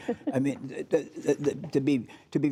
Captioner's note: laughter